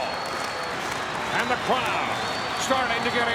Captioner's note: audience cheers